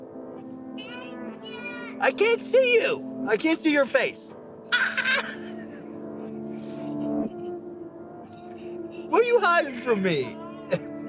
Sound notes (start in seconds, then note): 4.7 laughing